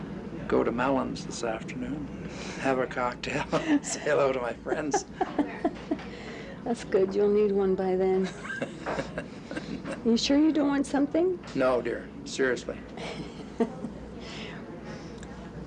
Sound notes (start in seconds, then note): 4.6 laughing; 8.2 laughs; 13.0 chuckling